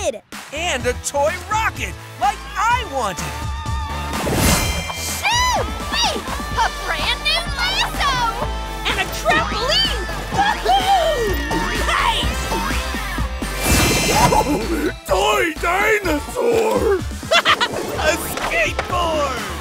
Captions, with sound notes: And a toy rocket like I wanted. Shewee! A brand new lasso! And a trampoline! Whoo-hoo! Nice! [chuckles] Toy dinosaur! [laughing] A skateboard!